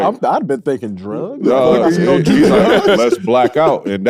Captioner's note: laughs